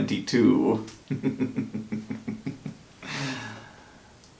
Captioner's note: diabolical chuckle